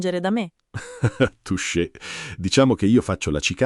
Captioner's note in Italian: Haha